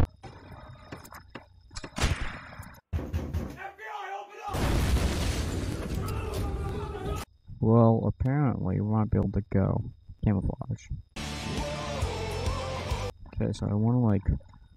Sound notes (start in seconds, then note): 2.8 bang bang bang; 4.5 bang, crash